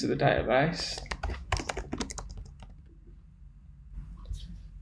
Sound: tapping keyboard

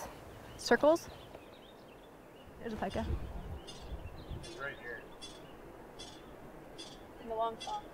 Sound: pika cheeps in background

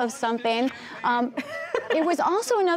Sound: laughter

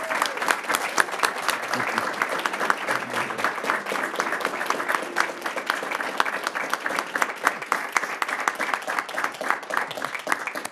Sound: applause

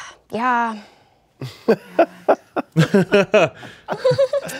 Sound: everyone laughing

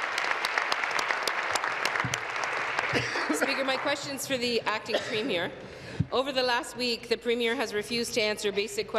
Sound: applause

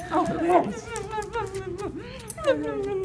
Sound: kissing sounds

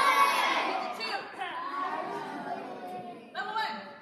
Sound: students shouting louder; students mumbling

